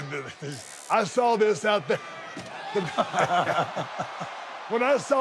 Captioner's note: Sami laughing